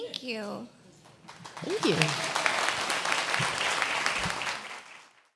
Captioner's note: applause